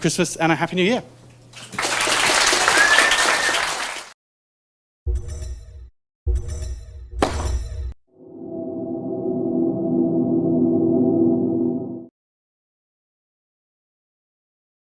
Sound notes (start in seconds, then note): 5.6 applause